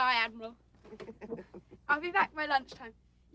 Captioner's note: all laughing